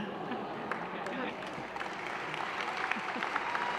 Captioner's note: applause